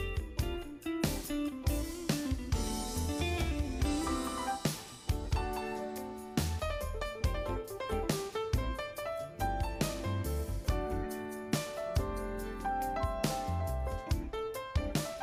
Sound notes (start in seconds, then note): none